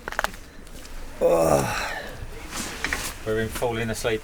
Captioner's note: loud groan